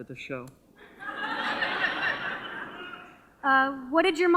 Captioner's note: audience laughter